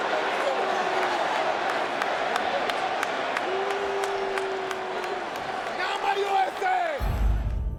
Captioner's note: hands clapping; crowd clamoring; dramatic music